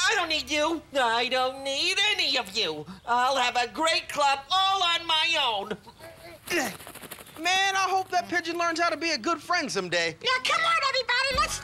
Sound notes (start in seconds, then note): 6.4 wings flapping